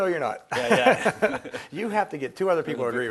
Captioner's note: laughing